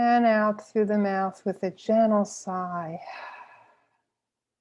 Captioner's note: exhales deeply